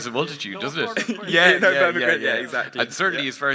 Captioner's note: laughs